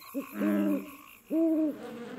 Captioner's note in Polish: rechotanie; pohukiwanie; brzęczenie